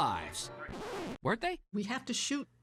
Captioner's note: record scratching